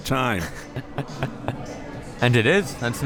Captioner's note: laughing